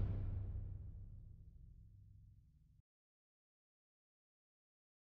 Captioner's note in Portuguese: sem áudio; sem áudio